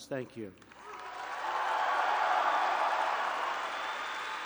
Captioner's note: applause